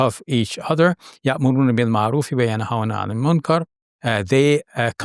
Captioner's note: speaking Arabic